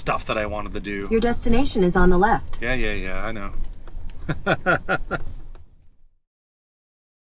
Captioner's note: laughter